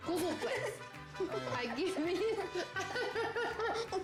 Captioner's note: laughter